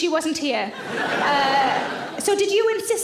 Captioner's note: audience laughs